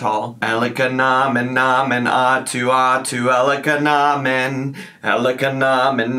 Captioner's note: chanting gibberish